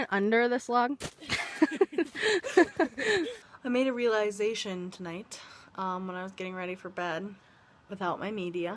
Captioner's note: laughing